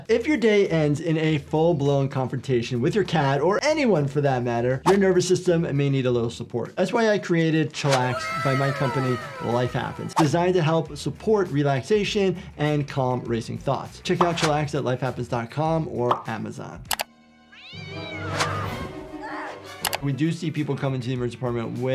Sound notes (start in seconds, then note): 17.5 cat yowling; 17.6 Cindy screaming